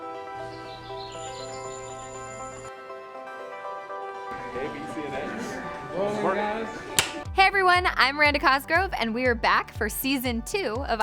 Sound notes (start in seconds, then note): 0.3 birds chirping; 4.3 indistinct chatter